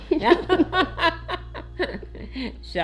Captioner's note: laughing